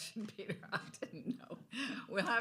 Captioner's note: laughs